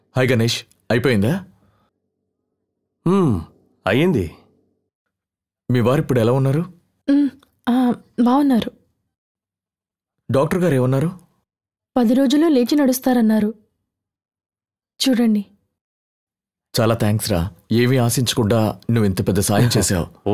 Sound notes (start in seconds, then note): none